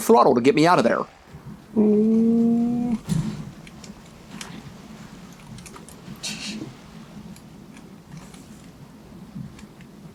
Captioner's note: moaning